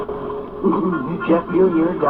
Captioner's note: snickering